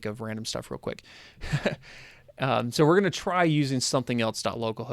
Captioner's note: laughter